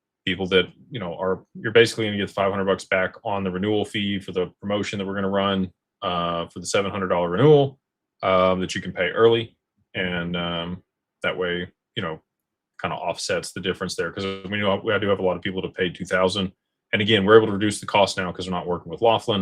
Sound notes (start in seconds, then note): none